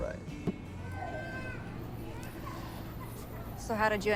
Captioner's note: baby cries in distance